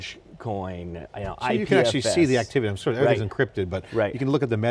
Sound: slurred

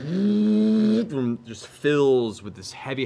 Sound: mimics horn

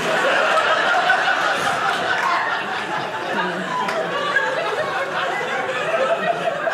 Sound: audience laughing

